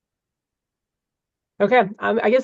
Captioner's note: silence